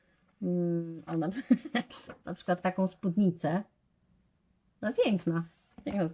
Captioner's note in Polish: śmiech